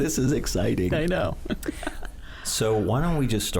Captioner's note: laughing